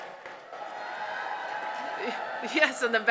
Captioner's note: applause, cheering